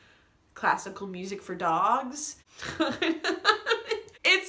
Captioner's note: more ugly laughing